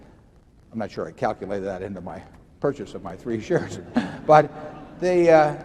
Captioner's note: laughter